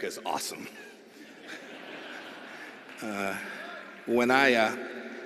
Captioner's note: laughter